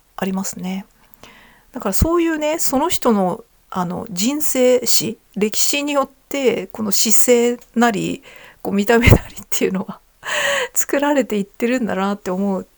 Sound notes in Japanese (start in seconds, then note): 10.0 笑い; 10.2 息をのむ音